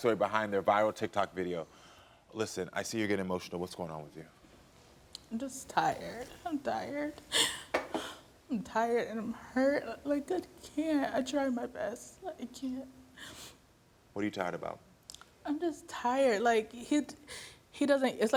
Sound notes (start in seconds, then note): 7.2 gasps; 13.2 sniffles